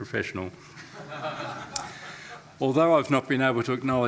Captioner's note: attendees laughing